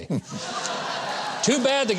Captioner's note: audience laughs